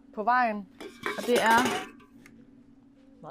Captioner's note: beer cans rattle